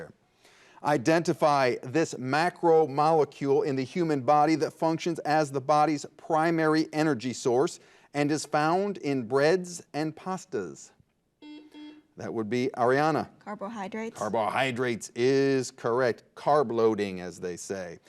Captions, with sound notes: Identify this macro molecule in the human body that functions as the body's primary energy source and is found in breads and pastas. (buzzer buzzes) That would be Arianna. - Carbohydrates? - Carbohydrates is correct, carb-loading, as they say.